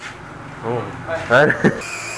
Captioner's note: laughs